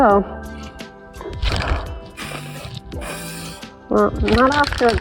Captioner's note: aerosol sounds